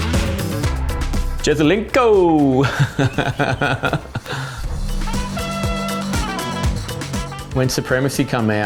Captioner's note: laughs